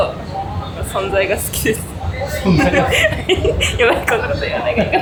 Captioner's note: laughs